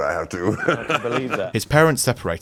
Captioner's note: laughs